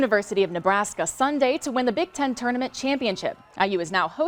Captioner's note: cheers and applause